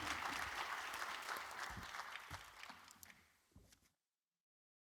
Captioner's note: audience applauds